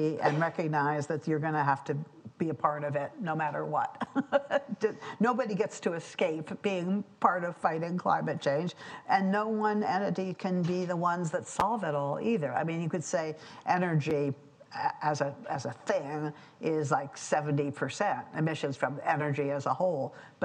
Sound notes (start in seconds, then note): 4.0 laughs